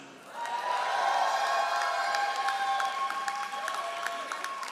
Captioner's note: all applauding